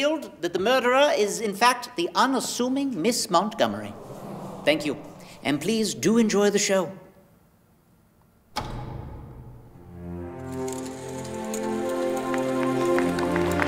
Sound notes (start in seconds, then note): 3.6 vocal sighs